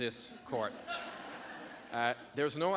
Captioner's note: audience laughing